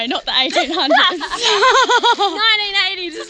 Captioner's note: both laughing